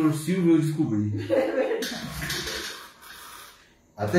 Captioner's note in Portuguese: risos